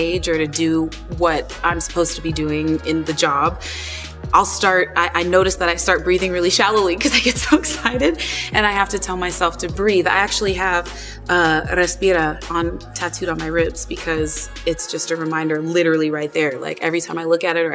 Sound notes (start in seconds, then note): 7.1 chuckles; 11.5 speaks Spanish